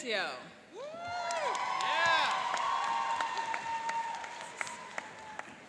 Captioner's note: applauding and cheering